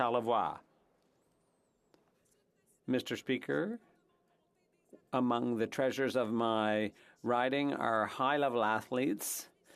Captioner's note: speaking French